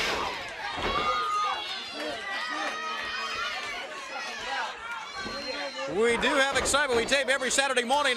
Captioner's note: crowd cheering